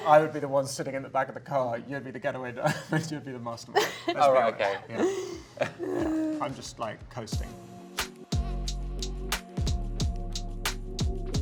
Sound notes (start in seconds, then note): 3.7 Felicity laughs; 3.7 laughs; 8.1 mellow music